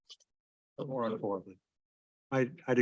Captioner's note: audio warps